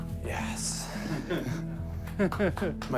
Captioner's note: chuckling